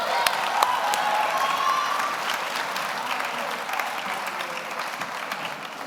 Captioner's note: audience applauds; audience cheers